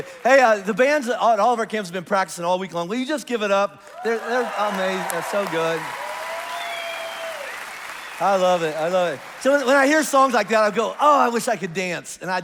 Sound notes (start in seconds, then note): 0.0 congregation applauds; 6.6 congregation applauds and cheers